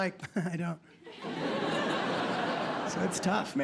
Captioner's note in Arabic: ضحك